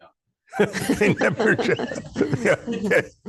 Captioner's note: laughter